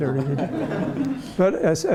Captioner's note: laughter